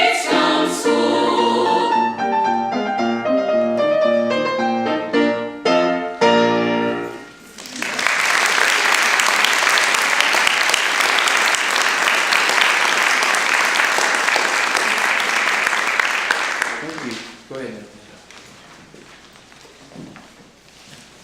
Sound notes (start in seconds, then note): 2.4 lively piano music; 7.5 applause